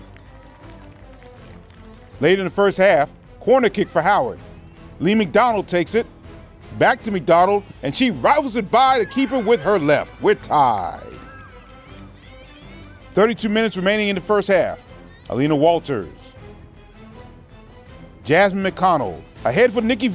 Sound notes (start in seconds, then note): 12.0 cheers